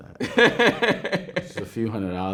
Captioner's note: man laughing